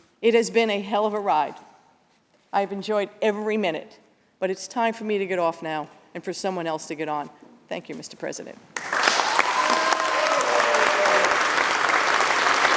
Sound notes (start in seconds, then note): 8.8 cheers and applause